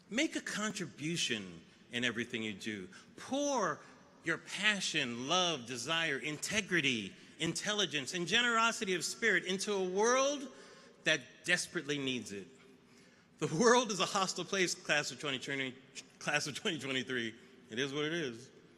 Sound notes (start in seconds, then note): none